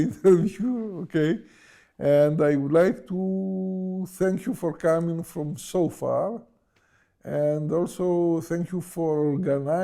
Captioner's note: laughs